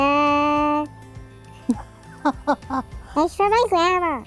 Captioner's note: laughter